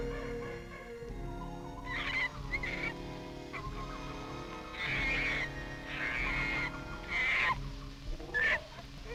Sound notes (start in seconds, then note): 1.9 monkey chittering